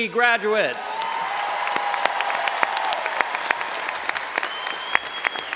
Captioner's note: all applauding and cheering